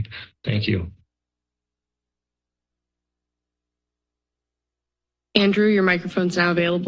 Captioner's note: silence